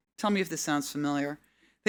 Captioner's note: none